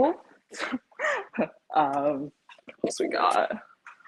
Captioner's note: chuckles